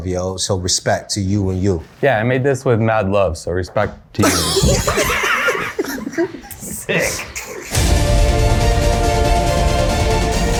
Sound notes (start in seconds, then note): 4.2 laugh; 7.6 dramatic music